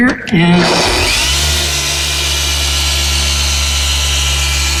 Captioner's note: LHR 75 revving